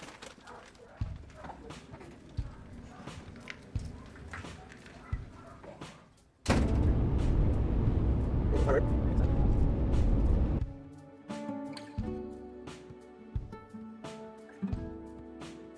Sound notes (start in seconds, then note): 6.4 door shuts; 8.4 soft rock road-trip music plays